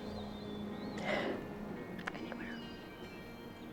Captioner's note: exhales